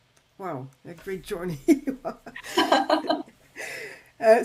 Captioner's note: laughs